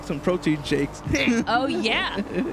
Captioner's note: laughs